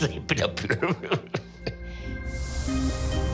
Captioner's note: laughs